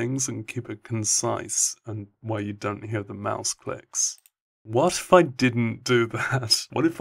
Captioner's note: click